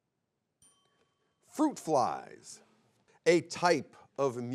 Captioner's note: bell chimes